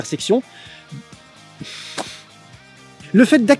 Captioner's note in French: Soupir